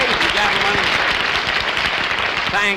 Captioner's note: audience Applauding